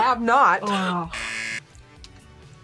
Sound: buzzer

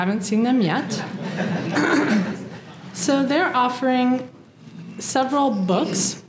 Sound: laugh; cough

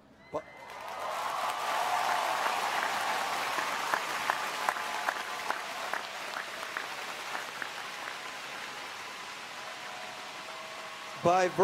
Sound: applause

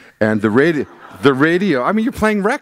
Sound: laughter

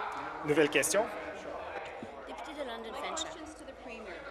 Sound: voice trailing

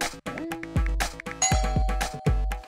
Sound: doorbell rings

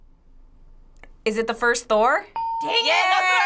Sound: ding

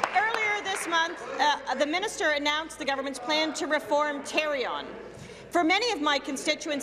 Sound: applause

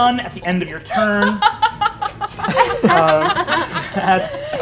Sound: players laughing

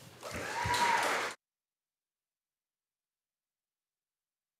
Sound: audience applauding

